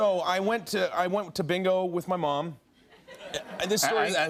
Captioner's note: laughter